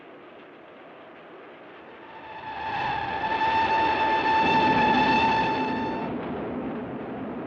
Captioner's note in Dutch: treinfluit